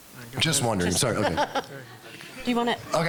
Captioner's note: laughing